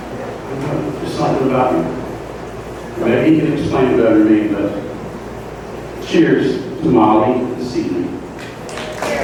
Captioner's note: applause